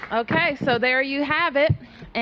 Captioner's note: applause